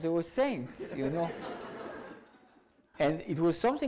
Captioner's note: audience laughs